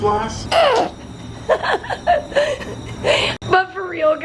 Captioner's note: laughing